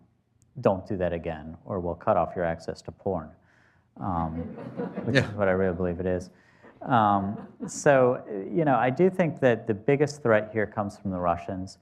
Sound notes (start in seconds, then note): 4.3 laughter